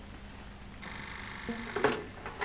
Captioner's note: phone Ringing